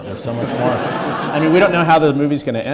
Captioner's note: audience laughing